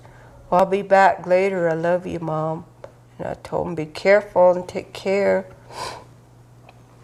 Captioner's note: sniffs